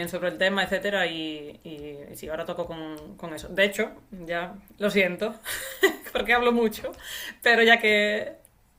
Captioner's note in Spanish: risas